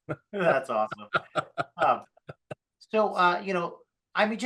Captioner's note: laughing